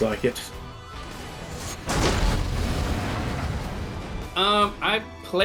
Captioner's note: Pilebunker sound